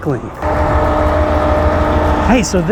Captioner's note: machine whirring